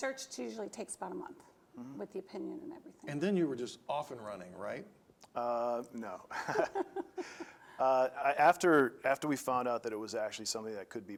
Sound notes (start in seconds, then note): 6.3 laughing